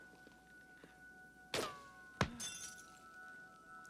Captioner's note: gunshot